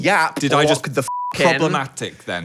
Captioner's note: beep